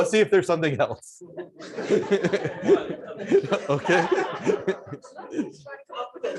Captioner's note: laughter